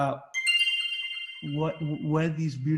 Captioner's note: notification sounds